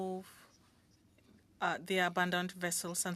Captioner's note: speaking French